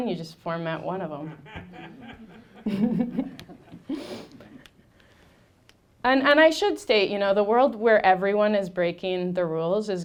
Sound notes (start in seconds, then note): 1.2 laughing; 1.3 audience laughing